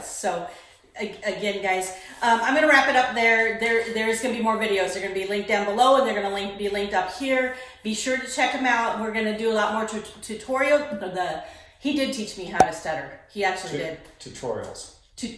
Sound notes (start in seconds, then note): 11.4 stutters